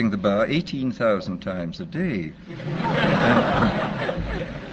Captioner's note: laughter